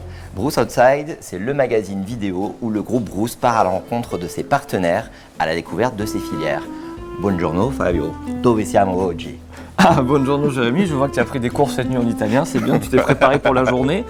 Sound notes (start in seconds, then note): 10.2 Italian